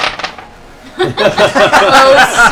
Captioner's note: laughter